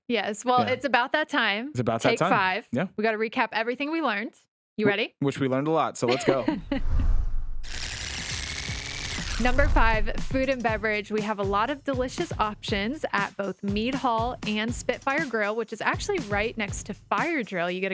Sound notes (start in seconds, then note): 6.7 scene swooshing; 7.7 tape rewinding